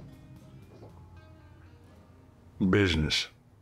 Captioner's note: none